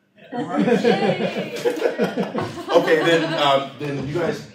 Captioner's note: laughter